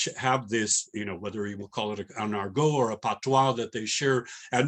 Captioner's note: non-english